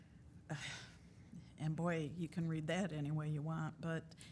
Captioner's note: sighing